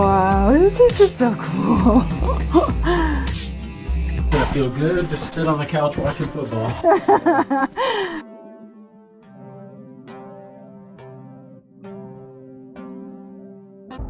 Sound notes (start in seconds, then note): 1.4 amazed laughter; 6.5 amused laughter